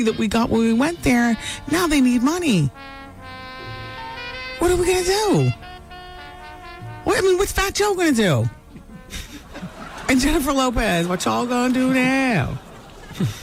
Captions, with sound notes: that we got when we went there, now they need money. What are we gonna do? What's Fat Joe gonna do? (laughing) And Jennifer Lopez, what y'all gonna do now?